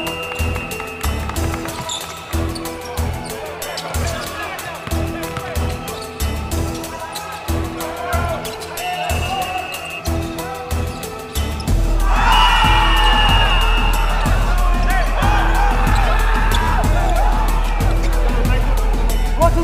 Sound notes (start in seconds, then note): 11.8 players shouting; 12.2 whistle blaring